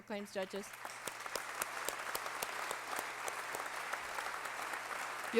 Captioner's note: applause